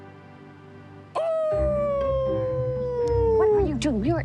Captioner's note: Jace howling